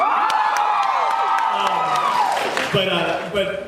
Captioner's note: cheers